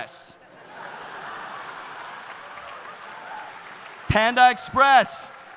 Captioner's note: audience laughing